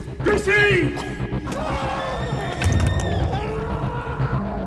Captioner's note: creature growls, scream